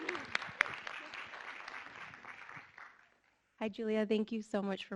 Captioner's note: audience clapping